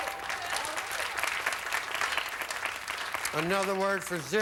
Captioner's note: audience applauding